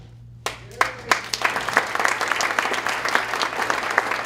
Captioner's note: applause